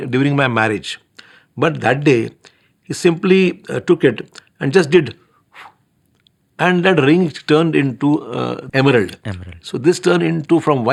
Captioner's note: blows